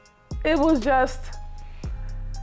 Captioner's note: sighs